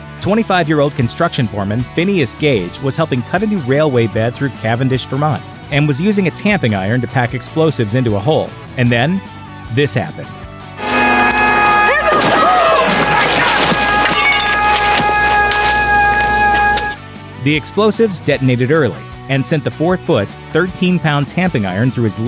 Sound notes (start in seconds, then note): 12.4 explosion and panicked yelling